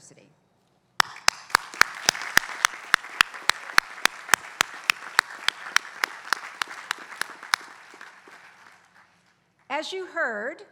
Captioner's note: applause